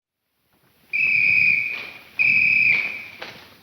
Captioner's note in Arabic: صافرة; دوس الأقدام